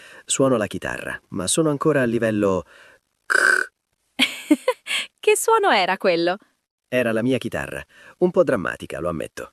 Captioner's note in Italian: risate